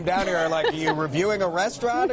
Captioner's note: laughter